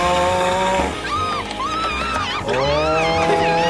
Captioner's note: Petunia screaming